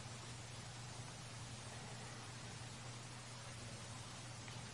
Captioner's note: water falling